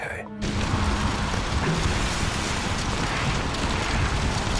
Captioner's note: flames roaring